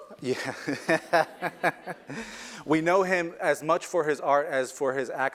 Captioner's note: laugh